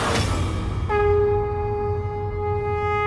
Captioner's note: conch blows